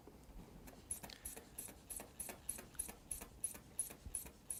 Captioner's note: air pumping